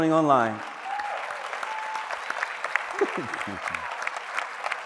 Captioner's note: applause